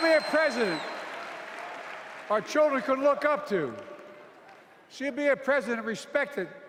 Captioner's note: applause